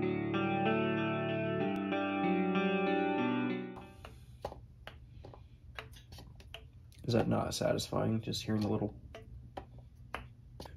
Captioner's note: pops